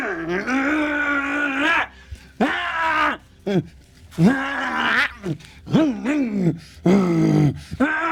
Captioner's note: screaming